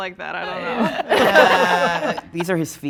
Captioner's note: group laughing